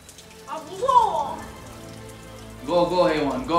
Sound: Korean

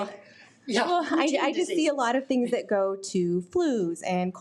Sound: laughs

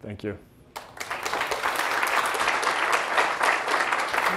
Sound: applause

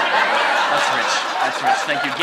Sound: laughter

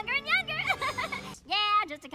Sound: nervous chuckle

